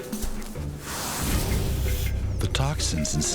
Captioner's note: dramatic music; snake hissing